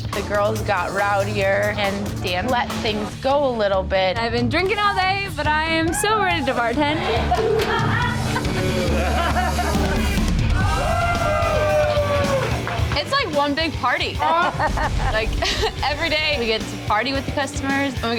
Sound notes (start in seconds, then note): 6.9 laughter; 10.5 cheer